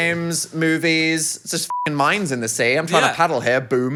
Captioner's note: beep